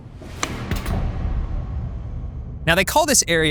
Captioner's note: lights clicking